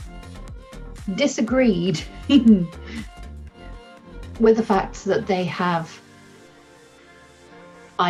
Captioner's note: chuckles